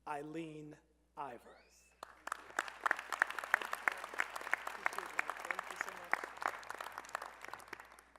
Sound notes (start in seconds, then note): 1.9 applause